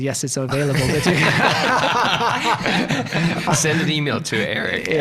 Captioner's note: all laughing